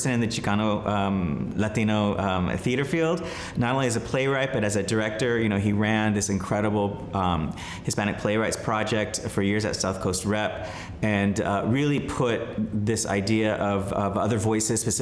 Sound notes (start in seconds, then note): none